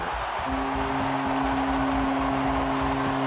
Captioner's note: horn blows